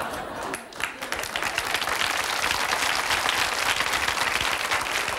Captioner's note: audience laughing; audience clapping